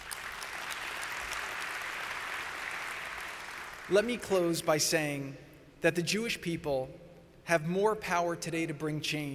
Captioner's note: applause